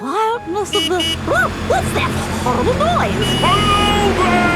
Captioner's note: honking